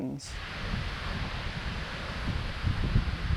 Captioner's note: wind blowing